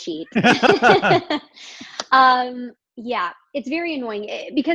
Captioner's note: laughing